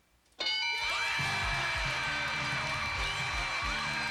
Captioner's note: cheers